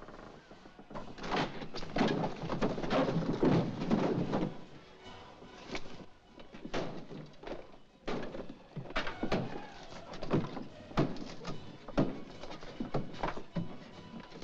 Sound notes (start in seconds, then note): 0.0 bookshelf splinters & clatters; 6.6 banging